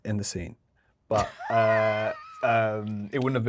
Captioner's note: Yerin laughing